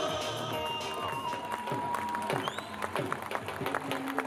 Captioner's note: crowd applauding